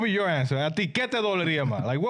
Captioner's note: yelling